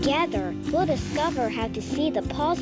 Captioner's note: whooshing